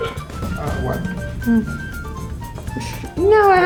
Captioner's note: production team laughs; bright music; Bruna moans